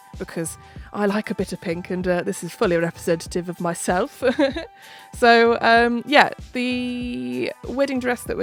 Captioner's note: laughs